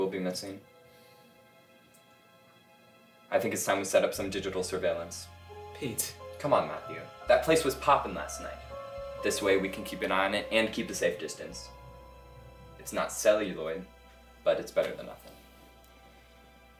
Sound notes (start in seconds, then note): none